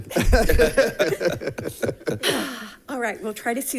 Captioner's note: board members giggle